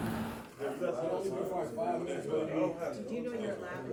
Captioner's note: indistinct background chatter